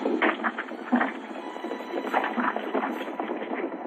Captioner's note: gunshots and horses galloping